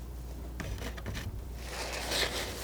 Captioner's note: scratching